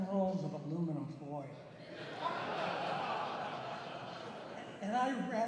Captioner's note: laughter